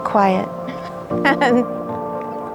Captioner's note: laughter